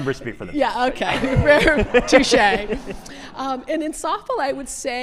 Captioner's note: laughs